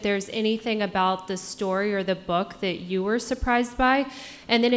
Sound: none

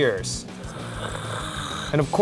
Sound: gurgling noises

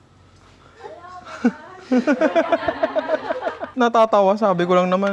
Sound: laughter

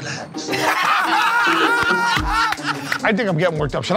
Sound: laughter

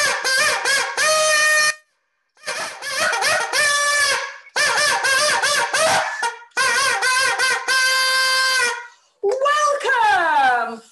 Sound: horn blowing

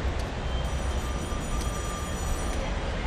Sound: phone ringing

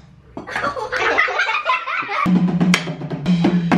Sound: kids laughing

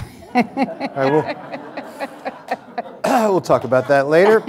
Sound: audience laughter

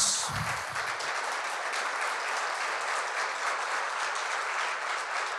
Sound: audience applauding

